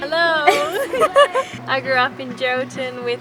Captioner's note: laughing